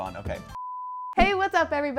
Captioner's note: beep